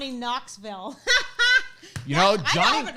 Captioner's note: laughs